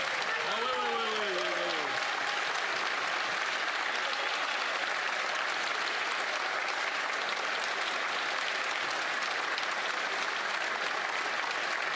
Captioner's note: some applause